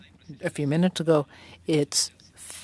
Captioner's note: speaking French